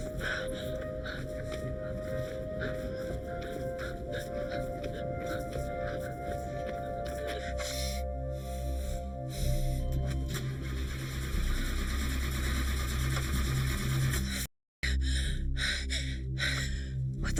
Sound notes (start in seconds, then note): 10.0 car engine whirring; 10.1 car beep; 14.4 panting